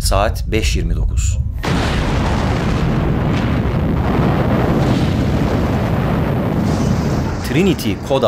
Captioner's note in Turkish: yüksek patlama sesi̇